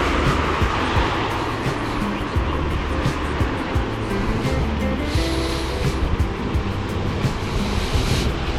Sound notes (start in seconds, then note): 1.9 wind Blowing